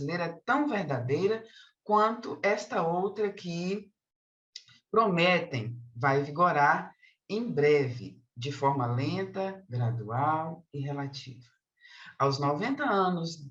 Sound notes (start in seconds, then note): 2.4 continues speaking in Portuguese